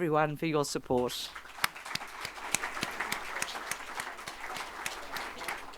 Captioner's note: audience applauding